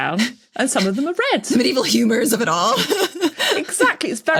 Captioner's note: laughs